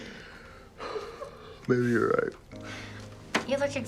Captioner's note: Nicolas sighs